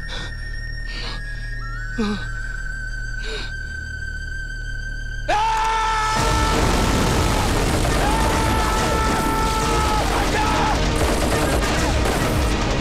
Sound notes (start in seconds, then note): 5.2 Robin screams; 6.6 Rapid gunfire